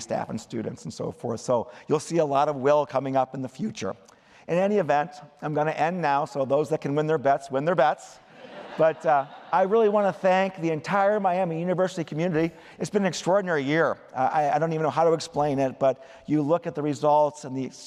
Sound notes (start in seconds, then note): 8.2 laughter